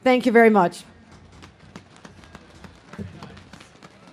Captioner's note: audience claps